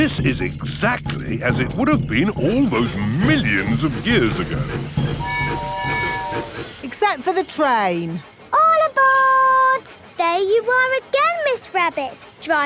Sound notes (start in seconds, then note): 5.1 train tooting